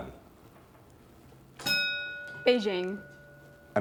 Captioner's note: bell dinging